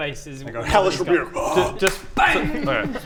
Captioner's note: argggh...SMACK